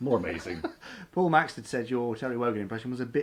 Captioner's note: laughs